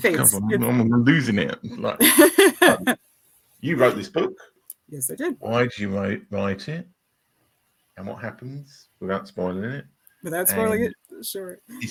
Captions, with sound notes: Fates. I'm losing it. (laughing) You wrote this book? Yes, I did. Why'd you write it? And what happens without spoiling it? Without spoiling it? Sure.